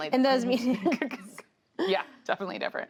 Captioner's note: laughter